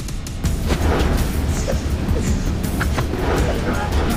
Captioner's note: whooshing